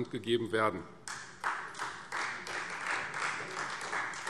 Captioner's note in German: Beifall Freie Demokraten